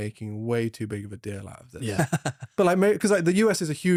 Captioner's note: laughs